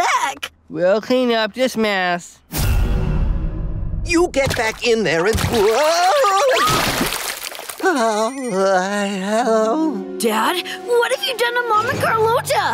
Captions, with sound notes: We'll clean up this mess. You get back in there and... Whoa! [groaning] Dad, what have you done to mom and Carlota?